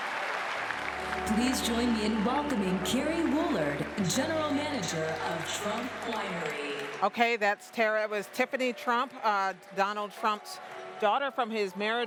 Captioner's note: cheering and applause